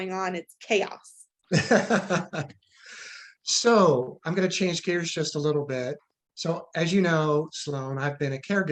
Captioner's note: laughs